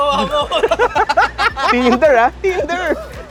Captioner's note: laughs